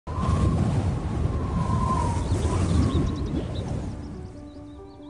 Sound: wind blowing

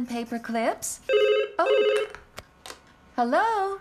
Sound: phone Rings

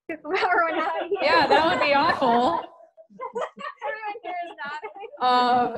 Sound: laughter

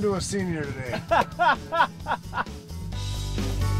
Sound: laughs

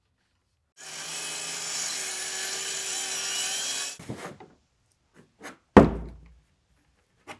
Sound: saw brattling; plywood thudding

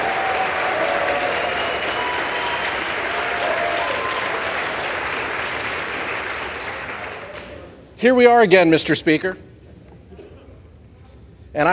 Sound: applause

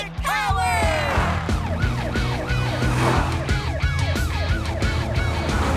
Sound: siren wailing

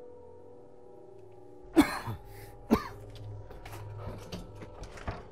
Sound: coughing

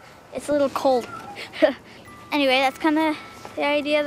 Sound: laughing

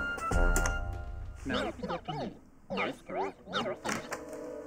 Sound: distorted tape

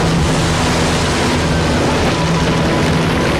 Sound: water splash

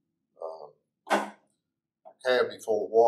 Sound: valve banging shut

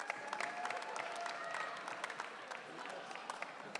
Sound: audience cheering

